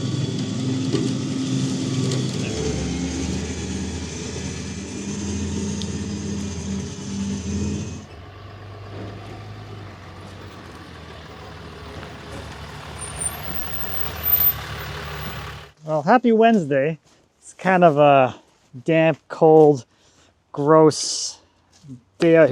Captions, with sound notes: (trailer whirring) (car revving) Well, happy Wednesday. It's kind of a damp, cold, gross day out here today.